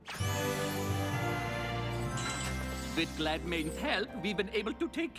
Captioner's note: German accent; tinkling